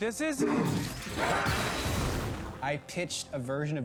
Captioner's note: huffs, shouts